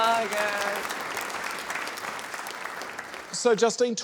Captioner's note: applause